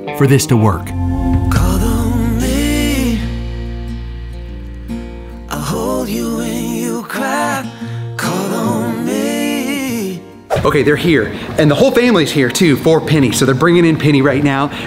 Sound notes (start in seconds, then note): 10.5 screen swooshes